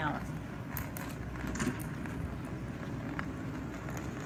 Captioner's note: cane rattling